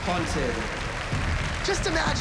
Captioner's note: applause